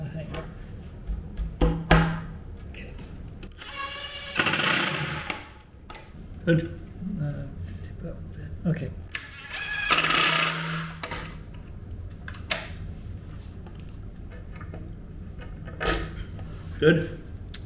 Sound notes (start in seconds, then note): 3.5 screwdriver driving; 4.1 tool hitting; 9.1 screwdriver driving; 15.0 tools clanking